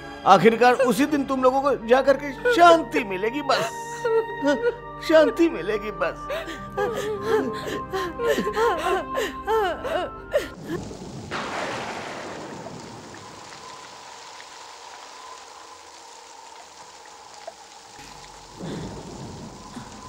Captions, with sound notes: You'll be at peace when everything is over. You'll be at peace. [Crying] [Thunder crashing]